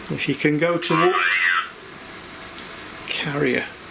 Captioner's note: computer voice